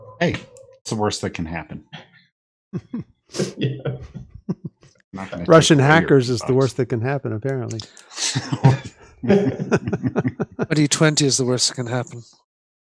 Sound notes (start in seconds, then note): 8.2 laughter